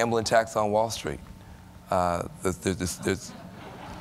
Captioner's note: laughter